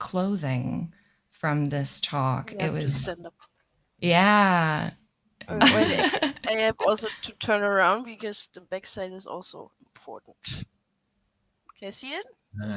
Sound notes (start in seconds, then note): 5.5 laughter